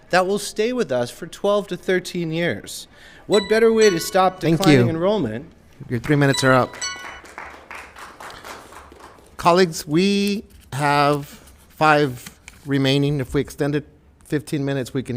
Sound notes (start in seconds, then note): 3.3 alarm chimes; 6.4 applause